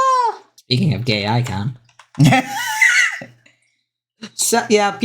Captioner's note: laughs